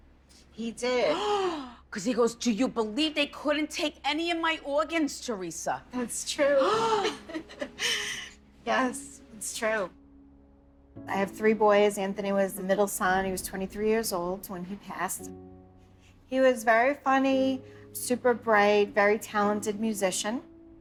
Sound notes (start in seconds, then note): 1.2 gasps; 6.4 laughs